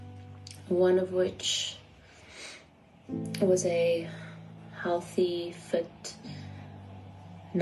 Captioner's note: sniffs